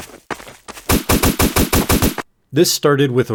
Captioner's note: shots